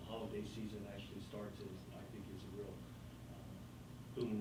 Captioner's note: faintly speaking